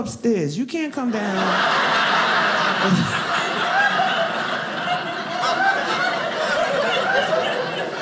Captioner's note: audience laughing